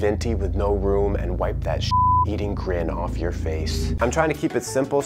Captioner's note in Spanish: beep